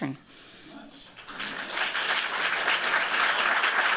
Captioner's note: applause